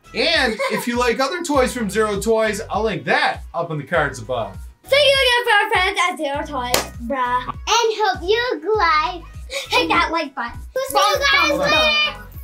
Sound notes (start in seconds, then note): 6.7 claps